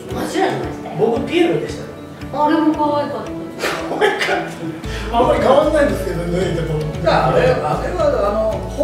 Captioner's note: laughs